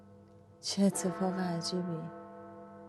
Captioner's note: clock bell